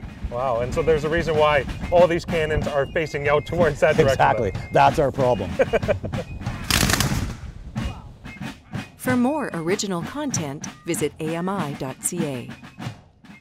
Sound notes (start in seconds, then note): 5.4 laughter